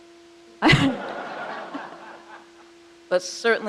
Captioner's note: crowd laughs